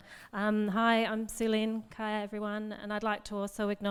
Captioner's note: speaks in foreign language